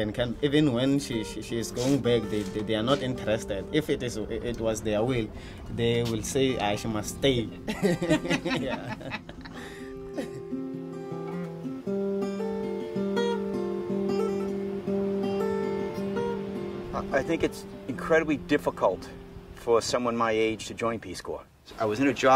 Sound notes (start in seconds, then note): 7.5 laughing; 10.2 guitar music